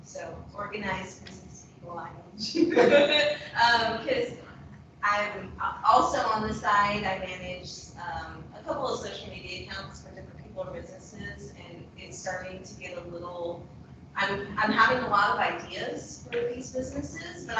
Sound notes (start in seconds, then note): 2.5 laughs